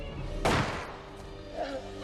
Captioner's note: shot blasts; bullet whizzes